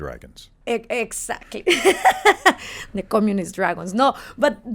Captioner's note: laughs